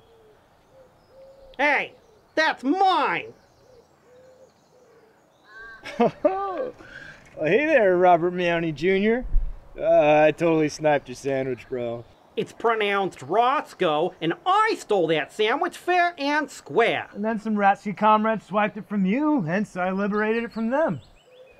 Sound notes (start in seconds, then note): 5.8 laughter